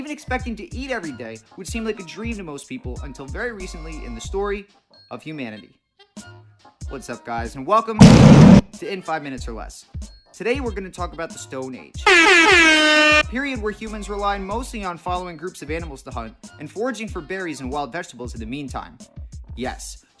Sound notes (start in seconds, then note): 8.0 explosion